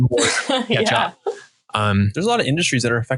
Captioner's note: laughing